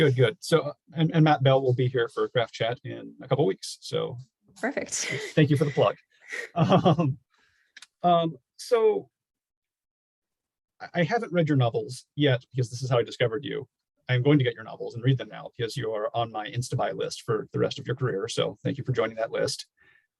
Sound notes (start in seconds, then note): 6.3 chuckles